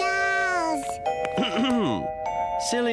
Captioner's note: Reginald clears his throat